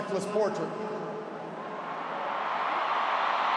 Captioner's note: applause